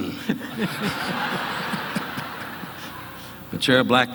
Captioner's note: audience laughing